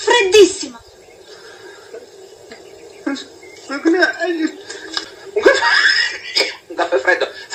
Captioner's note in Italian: risate